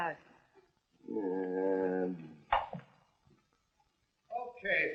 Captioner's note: groaning